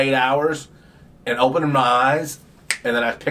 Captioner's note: fingers snaps